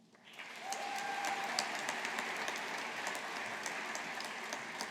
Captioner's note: audience applauding